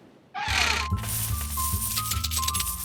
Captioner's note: hinges creak; coins jingling